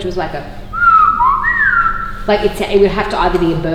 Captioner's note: mimicking whistle